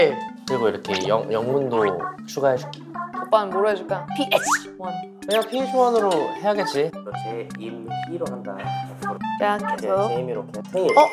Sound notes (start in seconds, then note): 4.3 achoo